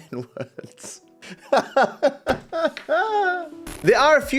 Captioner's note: laughs